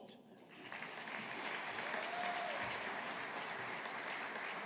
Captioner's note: audience applauding